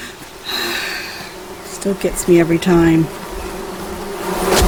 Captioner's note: takes deep breath